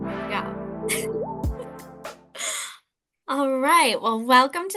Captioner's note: chuckles